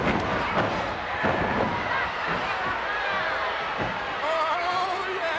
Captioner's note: body thuds